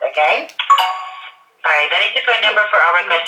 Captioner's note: computer chimes